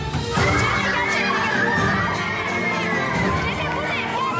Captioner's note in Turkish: kızlar çığlık atıyorlar